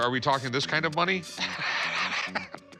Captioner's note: laughs